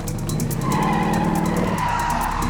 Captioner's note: tires squealing